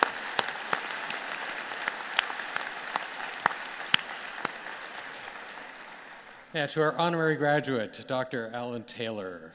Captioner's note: applause